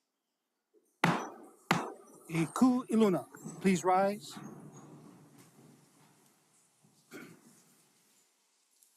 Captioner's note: gavel bangs twice